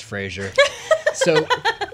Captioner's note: laughing